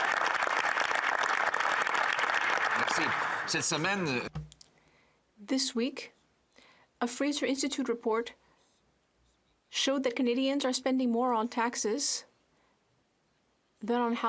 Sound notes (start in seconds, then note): 3.1 speaking French